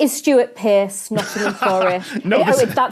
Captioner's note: laughs